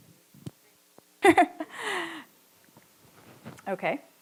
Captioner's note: chuckles